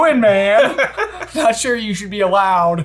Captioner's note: laughs